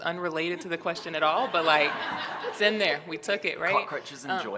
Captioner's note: audience laughter